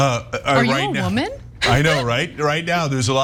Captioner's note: laugh